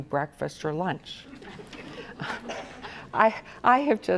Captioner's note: audience laughs